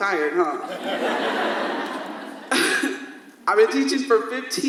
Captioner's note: audience laughs